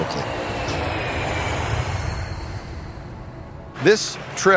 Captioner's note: jet engine whirs